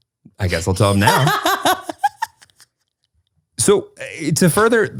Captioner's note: laughs